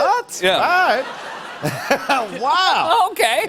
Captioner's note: laughter